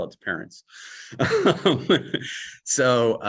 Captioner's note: chuckle